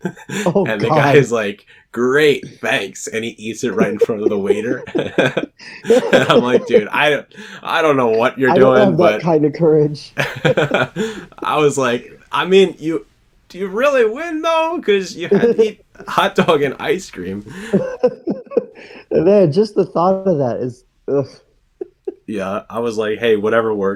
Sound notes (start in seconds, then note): 3.6 both laugh; 17.6 laughs